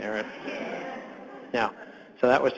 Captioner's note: audience laughs